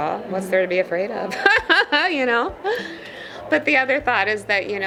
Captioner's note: laughs